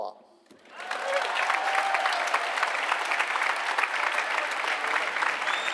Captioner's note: applause